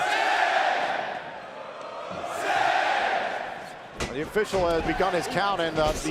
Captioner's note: crowd cheering